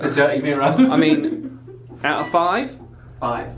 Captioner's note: laughs